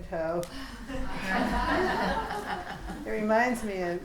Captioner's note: students laughing